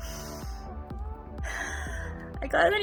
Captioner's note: deep Breath; squeal